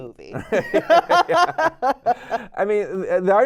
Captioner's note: laughing